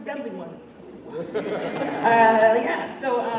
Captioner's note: laughter